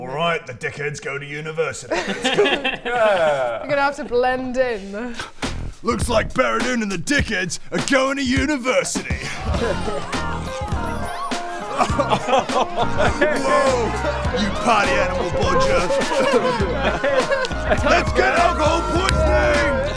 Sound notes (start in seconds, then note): 9.7 cheesy sitcom music; 11.7 cheesy sitcom laugh